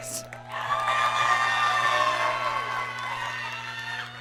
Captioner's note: audience cheering